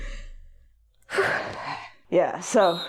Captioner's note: exhales